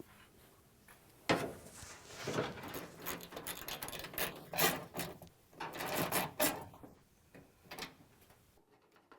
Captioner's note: ratcheting